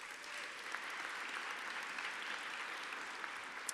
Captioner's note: applause